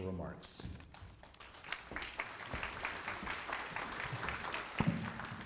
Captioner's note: applause